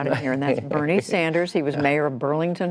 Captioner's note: laughter